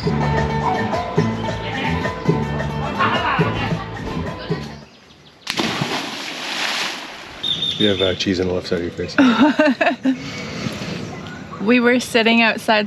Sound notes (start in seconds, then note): 3.0 speaking spanish; 9.1 laughter